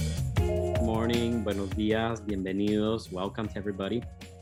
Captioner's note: speaking in Spanish